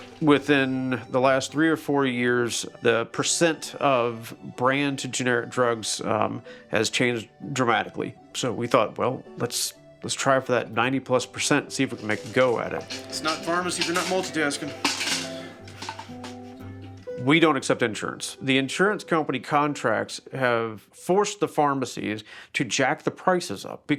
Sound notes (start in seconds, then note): 14.8 calm music; 14.8 container thudding